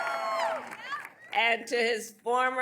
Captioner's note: cheering; applause